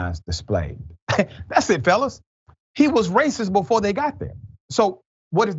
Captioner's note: laugh